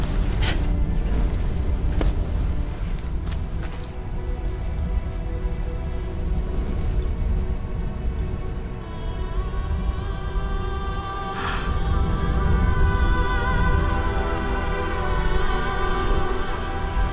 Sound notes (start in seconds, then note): 11.3 Ren gasps; 12.5 blaze roars in the distance